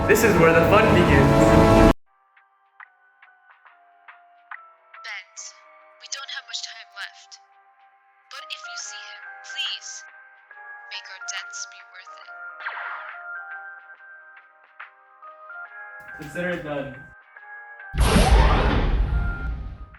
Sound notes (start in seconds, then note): 12.6 blaster shot